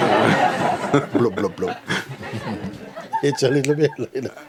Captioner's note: laughter